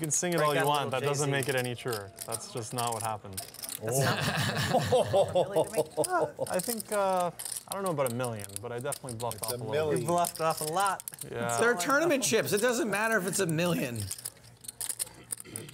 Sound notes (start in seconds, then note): 3.9 laughing